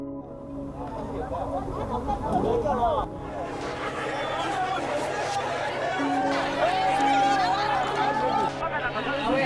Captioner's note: sounds of riots